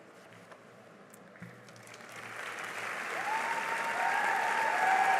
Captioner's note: cheering and applause